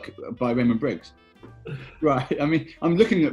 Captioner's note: laughing